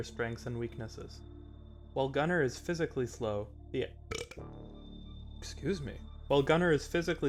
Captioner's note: burp